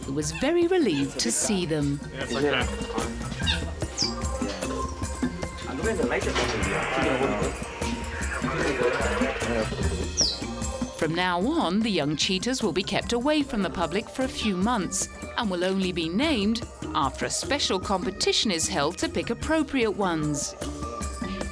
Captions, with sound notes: who was very relieved to see them. (people chattering) From now on, the young cheetahs will be kept away from the public for a few months, and will only be named after a special competition is held to pick appropriate ones.